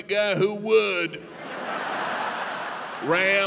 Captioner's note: audience laughing